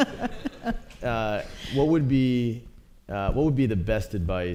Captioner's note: laughter